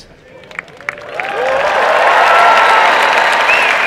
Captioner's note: applause and cheering